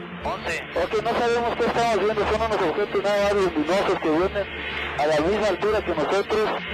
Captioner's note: pilot speaking Spanish